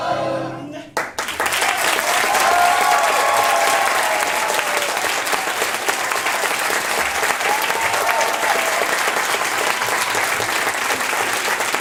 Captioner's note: applause